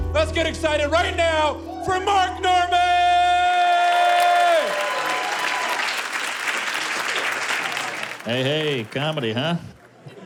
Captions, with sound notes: - Let's get excited right now for Mark Normand! (cheers) - Hey, hey! Comedy, huh?